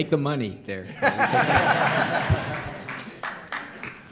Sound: laughter

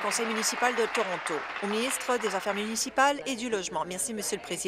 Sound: applause

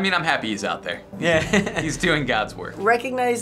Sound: chuckling

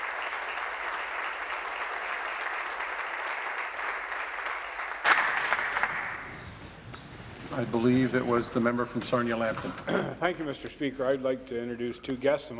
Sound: applause

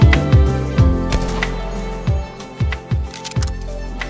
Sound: gun shot blaring; gun cocks

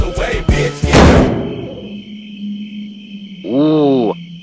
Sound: crickets chirping

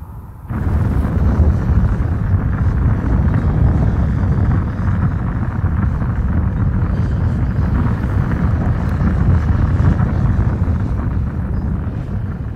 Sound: intense fire eruption

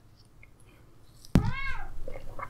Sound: cup hits desk; cat meows

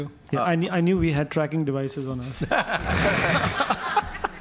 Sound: audience laughs

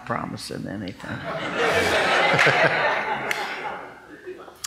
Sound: laughing

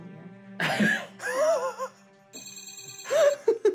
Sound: laughing

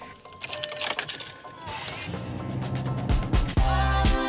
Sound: key turing; engine starting; club music

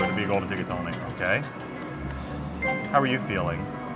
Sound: screen chiming

